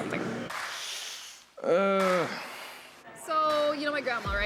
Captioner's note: inhales, winces, groans